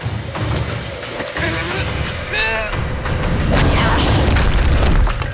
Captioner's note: grunting